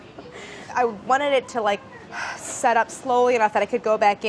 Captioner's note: exhales